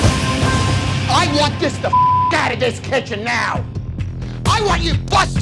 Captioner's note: beep